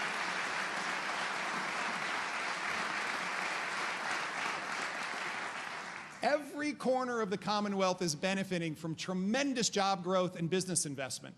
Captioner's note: applause